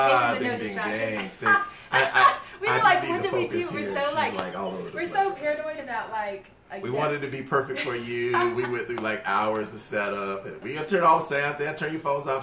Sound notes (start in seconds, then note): 1.4 laughter